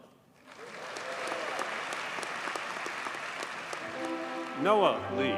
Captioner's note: audience cheers and applauds